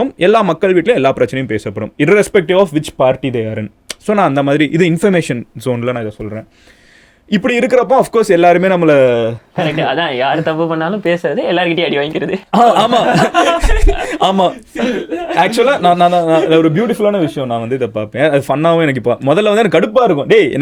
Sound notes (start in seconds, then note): 12.2 group laughs